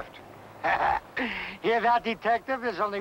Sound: Malamos laughing

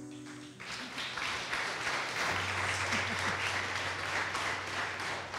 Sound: audience applause

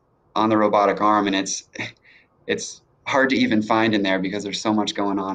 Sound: laughs

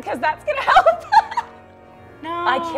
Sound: laughing

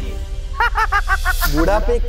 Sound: laughing

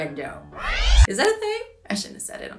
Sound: record needle scratching

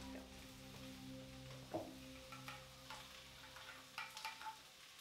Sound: kitchenware clinking

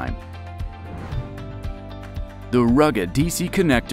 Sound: air whooshes

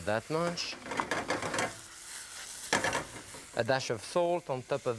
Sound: food sizzling; pan clinking

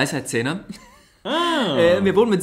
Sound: laughs

